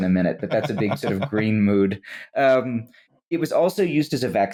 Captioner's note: low chuckle